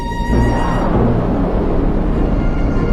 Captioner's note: rockets firing